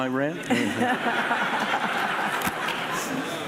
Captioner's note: laughing